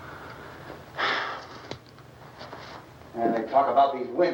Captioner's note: Harry sighs